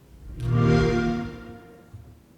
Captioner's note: xbox sound